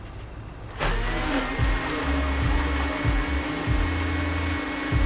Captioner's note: blender whirs